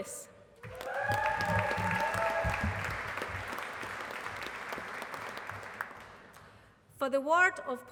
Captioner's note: applause